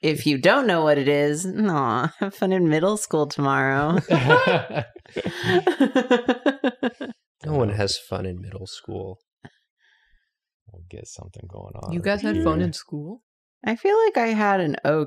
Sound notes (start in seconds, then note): 3.8 laughter